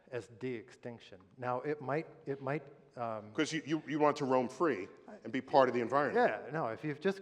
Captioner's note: none